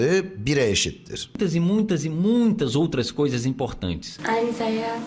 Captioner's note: man speaking Turkish; man speaking Portuguese